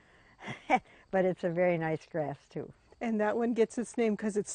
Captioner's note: laughs